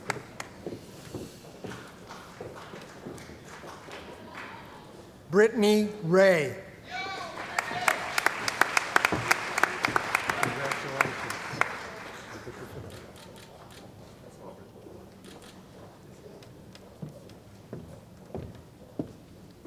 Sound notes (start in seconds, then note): 6.8 cheering & Applause